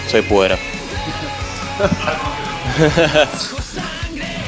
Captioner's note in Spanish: Risas